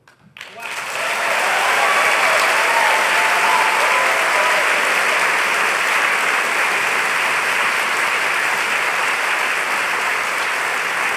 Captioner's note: cheering/applause